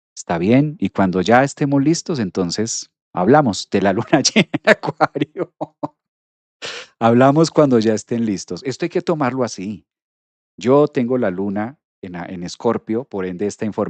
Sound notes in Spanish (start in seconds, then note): 3.9 risas; 6.6 resoplido